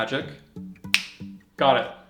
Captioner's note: snaps